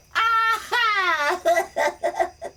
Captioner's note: laughs